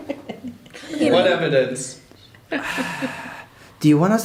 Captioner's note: exasperated sigh